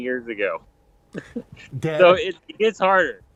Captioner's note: Dr. Pol chuckles